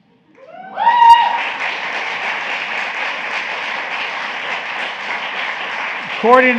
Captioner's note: applause